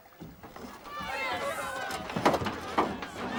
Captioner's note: clamor